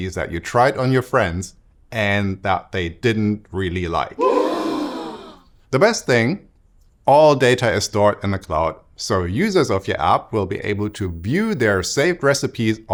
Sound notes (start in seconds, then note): 4.2 gasps